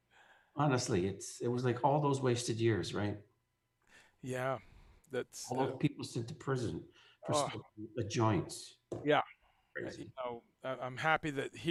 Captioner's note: scoffs